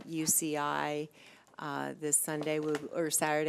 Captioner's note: none